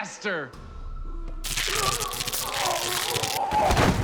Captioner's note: zapping